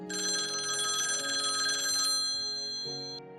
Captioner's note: phone ringing